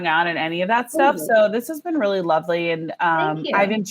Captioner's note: laughs